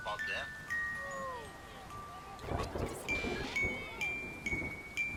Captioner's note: people chattering